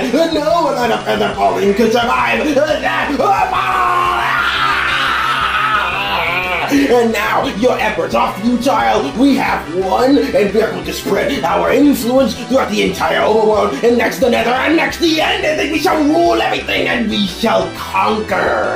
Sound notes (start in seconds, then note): 3.1 insane laugh